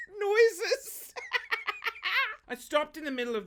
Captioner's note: laughs